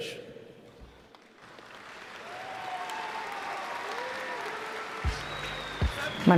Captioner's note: applause